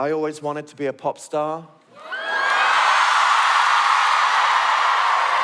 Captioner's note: cheering